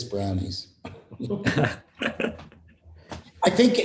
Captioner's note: laughter